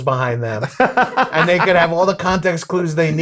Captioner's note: laughing